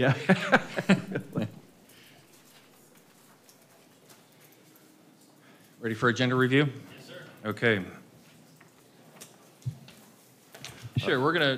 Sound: laughter

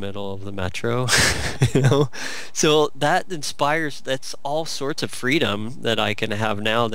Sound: laughs

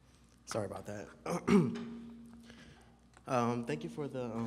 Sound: clears throat

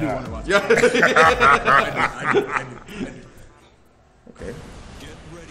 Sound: laugh

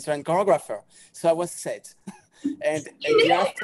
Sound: chuckles

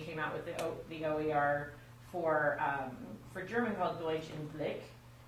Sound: speaks German

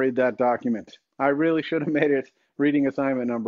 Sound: chuckles

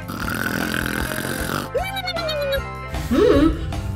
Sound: snoring

